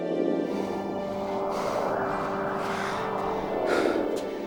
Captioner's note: heavy breathing